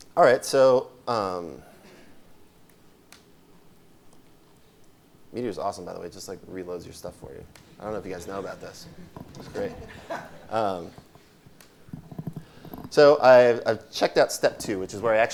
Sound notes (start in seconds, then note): 10.2 laughing